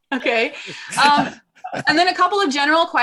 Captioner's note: all laughing